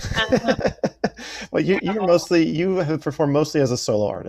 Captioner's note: laughs